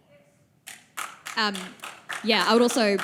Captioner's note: applause